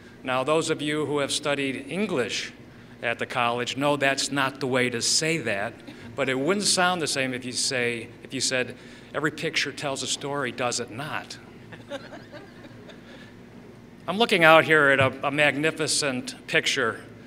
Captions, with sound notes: Now those of you who have studied English at the college know that's not the way to say that, but it wouldn't sound the same if you said, "Every picture tells a story, does it not?" [Laughter] I'm looking out here at a magnificent picture.